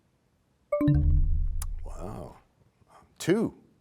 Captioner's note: bell chimes, time expires